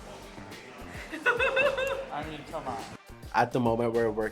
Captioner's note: contestant laughs